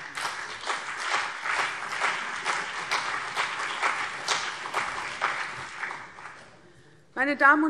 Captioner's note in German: Beifall CDU und BÜNDNIS 90/DIE GRÜNEN